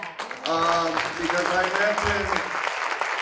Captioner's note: audience applauding